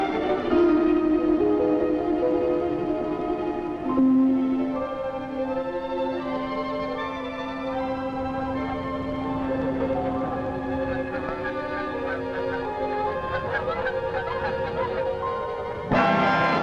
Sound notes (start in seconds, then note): 11.9 honking